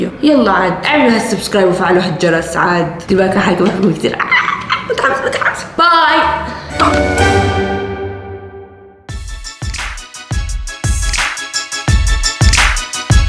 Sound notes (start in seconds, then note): 4.2 shouts in excitement; 9.1 outro music plays